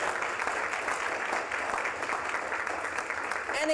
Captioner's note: applause